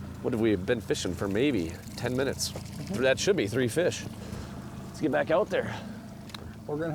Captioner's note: none